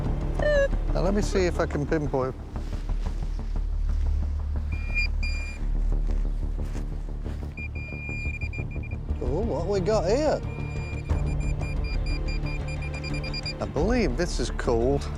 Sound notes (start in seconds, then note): 4.6 beeping; 7.4 beeping